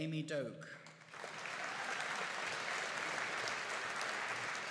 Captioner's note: audience applauding